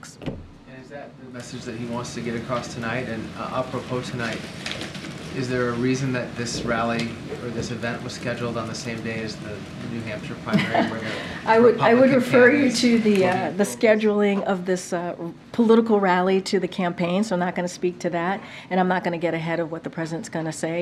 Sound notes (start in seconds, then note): 10.6 laughs